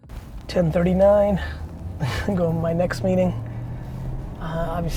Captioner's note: chuckles